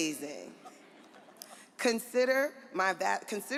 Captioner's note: audience laughs